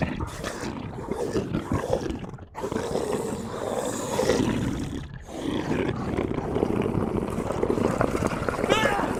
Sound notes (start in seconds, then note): 5.2 bear growl; 8.7 man screams